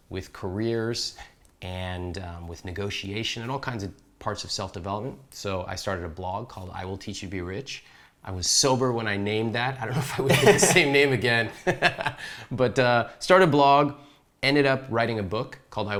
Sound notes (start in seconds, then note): 9.9 laughs